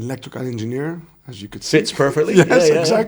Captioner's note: laughing